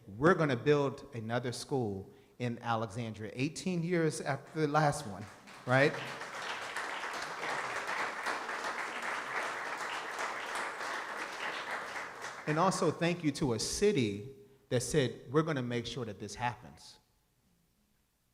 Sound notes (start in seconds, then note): 5.3 audience applauding